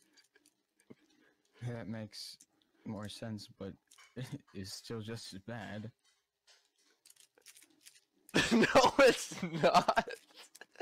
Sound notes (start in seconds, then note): 8.3 laughing